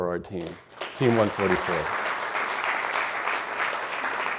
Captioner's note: crowd applauds